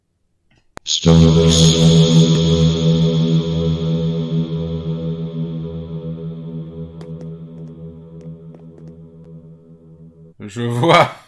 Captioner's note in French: Voix bizarre avec réverbe